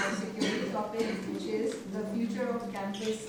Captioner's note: person coughing